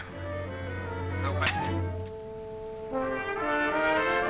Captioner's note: radio clicks; dramatic music